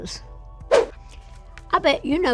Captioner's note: image whooshing